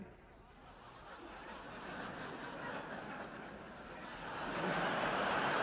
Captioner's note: audience laughing